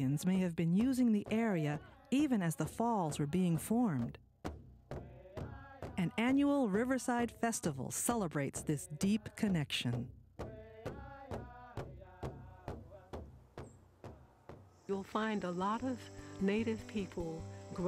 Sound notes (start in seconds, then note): 4.4 drums thumping; 5.0 chanting; 9.4 drums thumping; 10.5 chanting